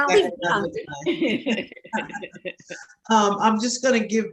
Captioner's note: chuckling